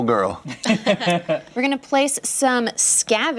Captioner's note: laughter